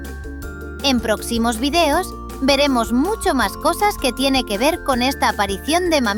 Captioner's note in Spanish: Voz en off